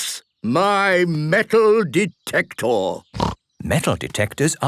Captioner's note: snorting